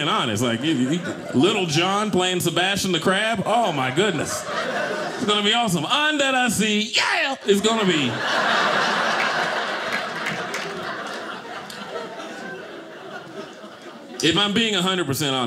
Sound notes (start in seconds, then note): 7.4 audience laughing